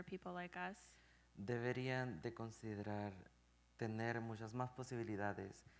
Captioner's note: speaking in Spanish